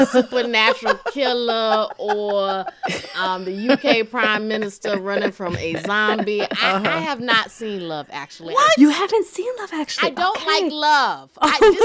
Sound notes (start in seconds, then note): 0.5 laughter; 3.0 laughter